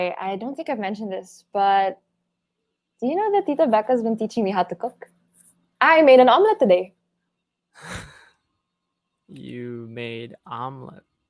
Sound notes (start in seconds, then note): 7.8 laughing softly